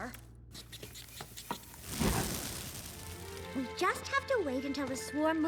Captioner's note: squeaking; flames crackling